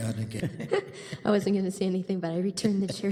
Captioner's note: laughter